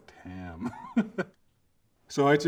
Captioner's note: laughs